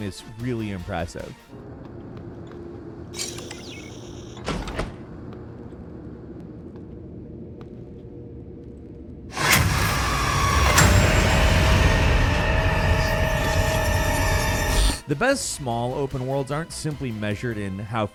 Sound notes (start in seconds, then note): 3.1 electronic trilling; 10.1 intense music